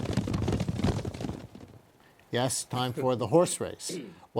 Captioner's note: sound of horses running